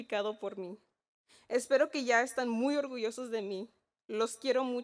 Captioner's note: speaking in Spanish